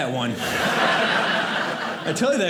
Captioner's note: audience laughing